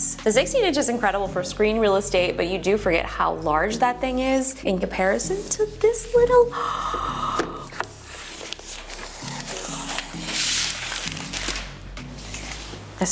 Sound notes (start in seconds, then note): 6.4 gasps; 9.4 paper crinkling